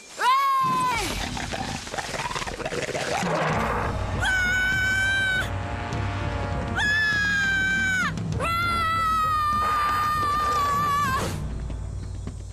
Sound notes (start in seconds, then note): 0.9 growling; 4.2 screams